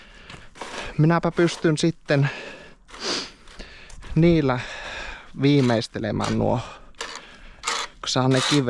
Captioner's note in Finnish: huokaus